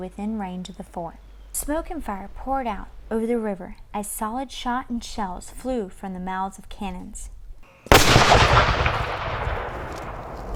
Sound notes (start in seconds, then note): 7.9 cannon firing